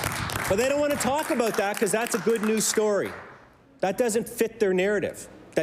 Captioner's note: applause